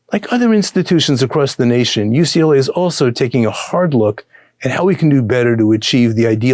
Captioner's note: none